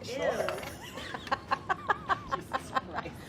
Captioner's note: laughing